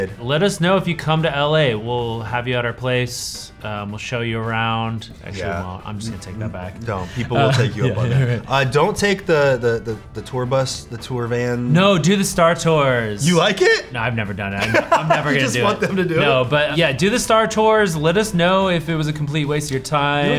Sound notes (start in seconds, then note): 8.6 laughs; 14.6 Anthony laughs